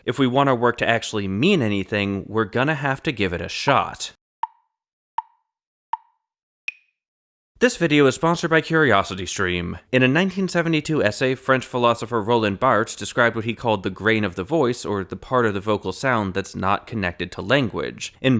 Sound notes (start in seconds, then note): 5.2 tick, tick, tick, tick, tock